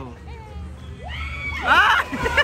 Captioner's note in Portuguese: grito